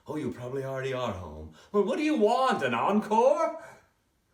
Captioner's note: none